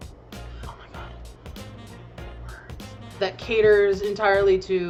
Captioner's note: whispers